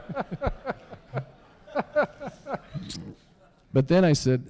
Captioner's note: laughter